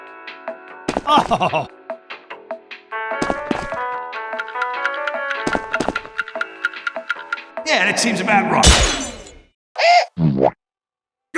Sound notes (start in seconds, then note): 4.3 ticking; 8.5 crack!